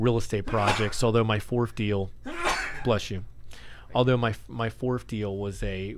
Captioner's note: sneezing